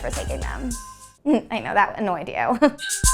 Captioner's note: laughing